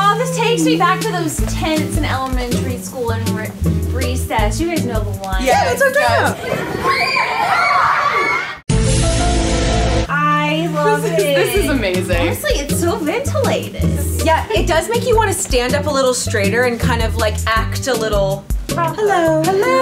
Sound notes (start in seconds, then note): 5.5 kids screaming; 8.7 paranormal sound